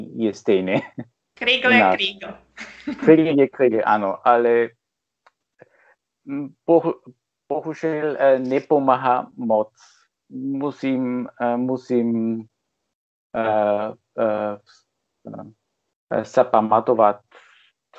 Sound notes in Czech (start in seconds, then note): 2.6 se směje